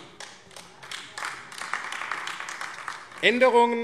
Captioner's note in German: Beifall AfD